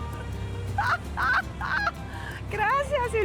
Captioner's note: laughs